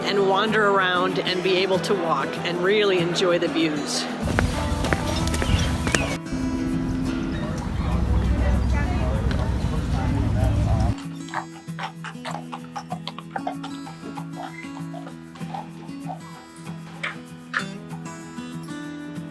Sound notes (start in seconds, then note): 4.2 footsteps; 11.6 horse shoes clopping